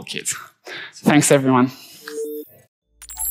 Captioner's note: logo whooshing